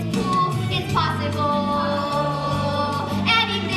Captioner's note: echo